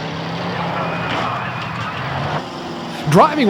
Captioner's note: metal crashes